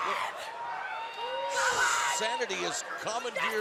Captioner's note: screaming